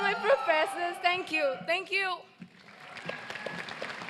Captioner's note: applause